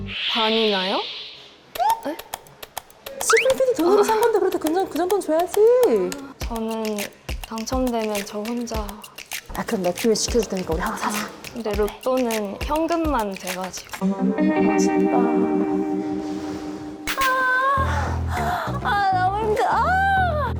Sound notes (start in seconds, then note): 3.3 keeping loyal sound effect; 17.0 30 minutes later sound effect